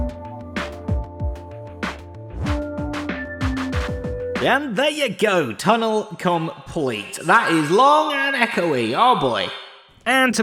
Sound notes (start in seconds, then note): 4.5 echoing voice